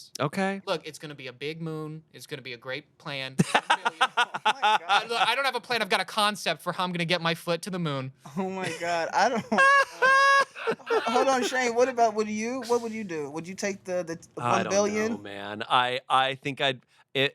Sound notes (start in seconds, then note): 3.4 laughs; 9.3 everyone laughs